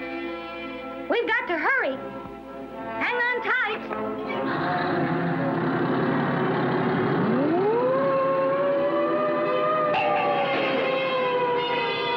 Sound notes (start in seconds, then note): 6.3 motor Rumbling, Siren Runs; 9.9 boing!